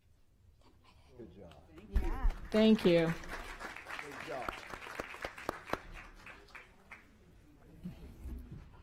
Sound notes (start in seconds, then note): 6.6 applause